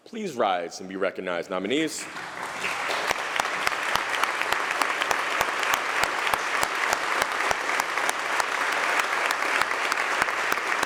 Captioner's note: applause